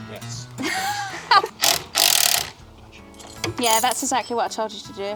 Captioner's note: drill grinding